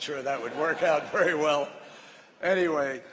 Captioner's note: laughter